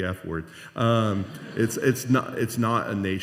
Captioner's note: laughter